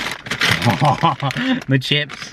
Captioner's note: laughing